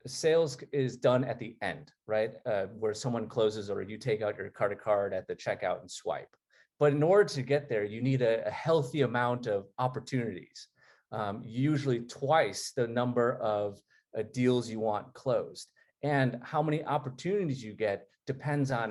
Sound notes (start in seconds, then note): none